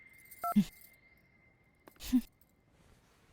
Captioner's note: scoffing